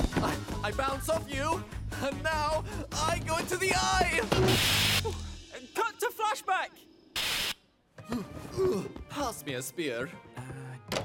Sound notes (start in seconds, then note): 4.4 static